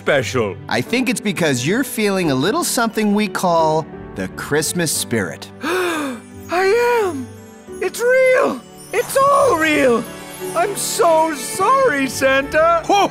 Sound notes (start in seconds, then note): 5.4 gasps